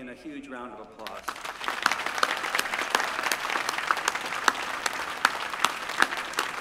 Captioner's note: applause